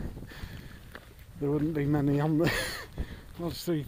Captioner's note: chuckles